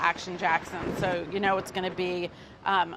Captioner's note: dramatic thunder cracks